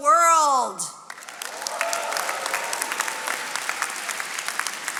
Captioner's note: attendees applauding